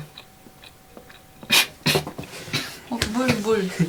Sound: coughing sound

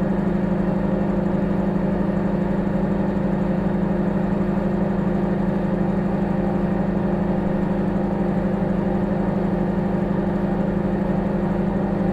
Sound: microwave humming

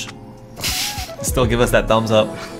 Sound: laughing

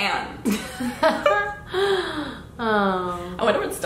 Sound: both laugh

